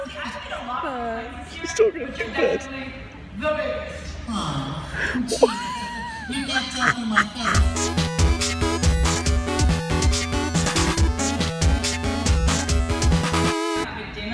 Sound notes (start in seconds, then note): 5.1 laughs; 7.4 upbeat electronic music